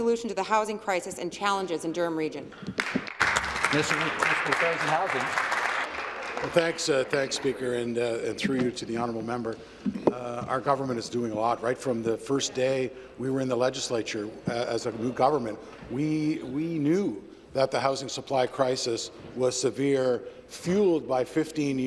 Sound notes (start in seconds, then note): 8.3 applause